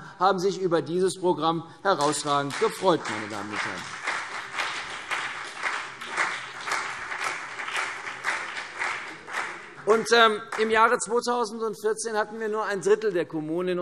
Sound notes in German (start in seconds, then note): 3.9 Beifall CDU und vereinzelt BÜNDNIS 90/DIE GRÜNEN